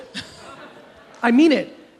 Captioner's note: audience chuckles